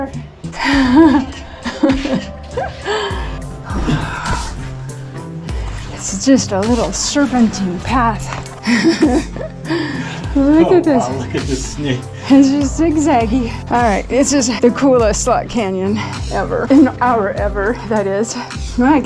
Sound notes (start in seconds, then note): 0.6 amazed laughter; 8.6 laughter